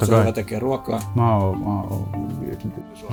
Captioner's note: vague humming